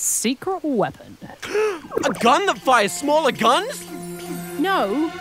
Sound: gasps

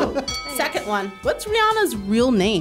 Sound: bell dings

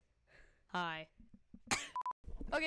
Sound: coughs

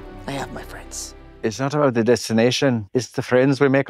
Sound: scottish brogue

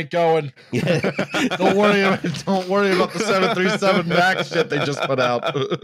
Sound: laughter

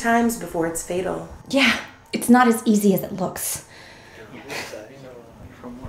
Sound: sighs

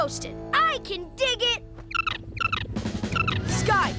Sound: chirping

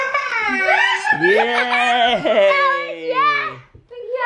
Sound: shouts excitedly

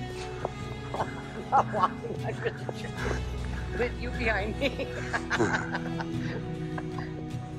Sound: laughs

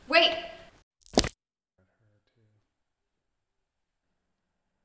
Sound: neck snaps

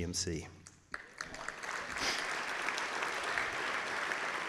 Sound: claps

